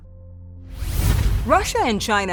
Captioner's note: swooshing